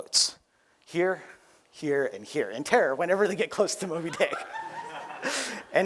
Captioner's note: laughter